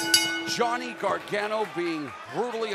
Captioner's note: bell ringing